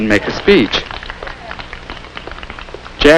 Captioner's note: polite applause